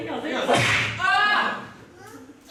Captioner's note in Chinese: 啪打聲